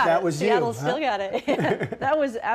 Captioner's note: laughter